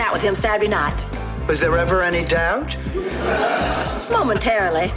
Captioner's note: laughs